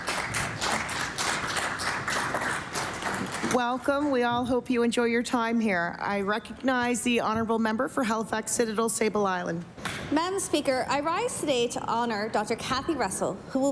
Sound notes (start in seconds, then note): 3.7 applause